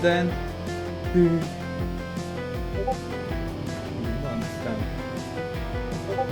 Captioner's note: shudder